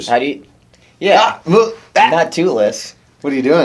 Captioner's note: yells